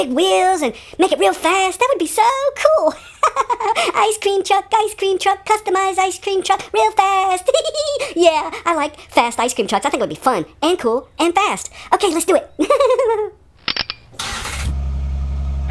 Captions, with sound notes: wheels and make it real fast that would be so cool ice cream truck ice cream truck customized ice cream truck real fast yeah I like fast ice cream trucks that's gonna be fun and cool and fast [ click ]